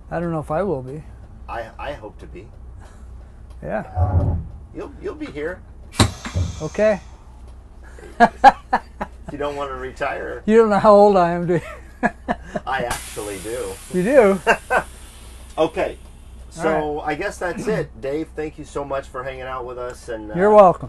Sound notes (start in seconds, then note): 7.9 laughs; 11.9 laughs; 15.2 laughs